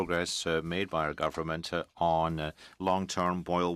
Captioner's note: speaking in french